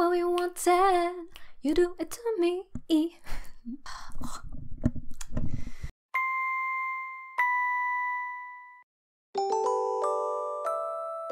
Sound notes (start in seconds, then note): 3.6 weird mouth noise; 6.4 music box tune